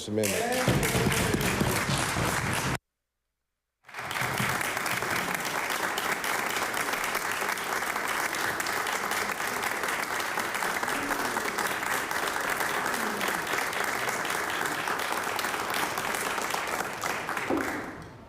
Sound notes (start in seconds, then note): 3.8 applause